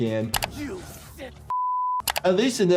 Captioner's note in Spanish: pitido